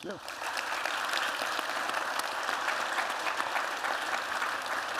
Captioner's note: applause